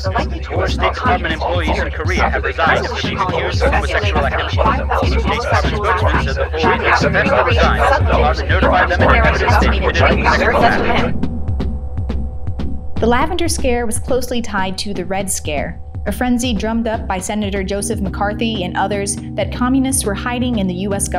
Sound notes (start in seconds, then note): 9.3 crescendo then the voices stop; 11.4 drumming music